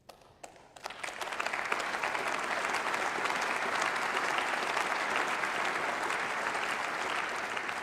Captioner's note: Applause by CDU and SPD and by members of the Greens